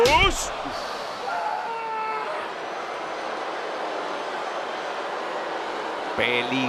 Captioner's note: applause